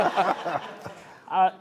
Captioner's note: laughter